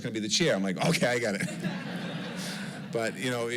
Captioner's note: laughter